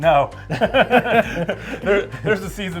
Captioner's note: laughs